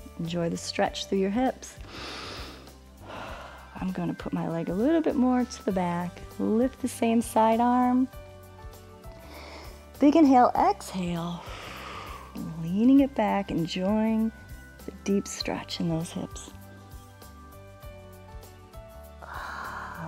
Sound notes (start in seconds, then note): 1.8 inhales and exhales; 11.4 exhales